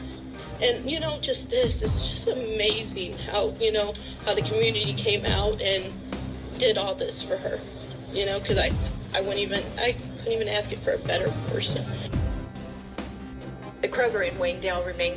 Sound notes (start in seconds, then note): 7.7 woman stammering on TV; 10.4 on TV; 14.0 on TV